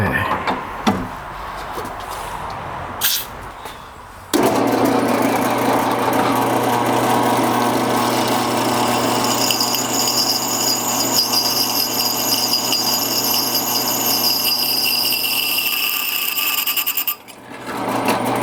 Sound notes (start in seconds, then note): 3.3 spray hissing; 4.9 drill whirring; 8.5 metal clanging